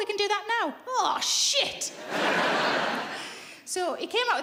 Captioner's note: laughing